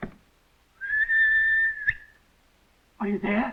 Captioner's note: whistling